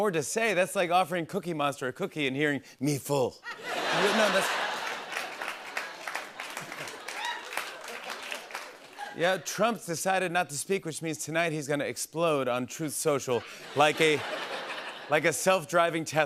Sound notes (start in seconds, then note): 3.5 laughter and applause